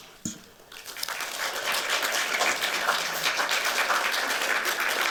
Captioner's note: applause